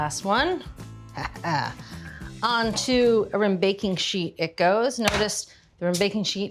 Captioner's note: laughs